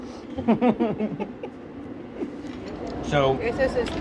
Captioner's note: laughing; speaking in foreign language